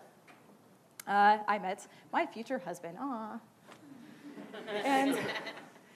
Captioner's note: laughing